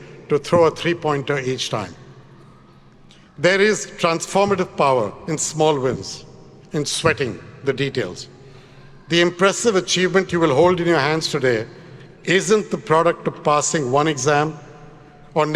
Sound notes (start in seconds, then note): none